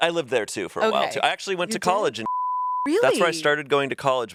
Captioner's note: beep